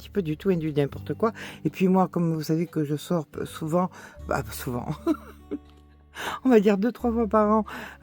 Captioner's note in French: rires